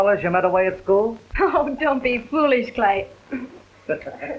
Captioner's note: scoffing; laughter